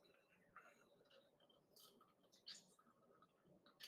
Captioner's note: juice dripping